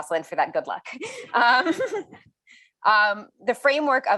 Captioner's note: chuckles